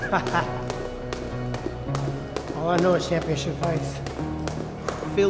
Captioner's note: laughs